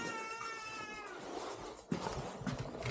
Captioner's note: baby crying